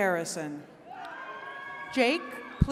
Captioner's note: attendees cheering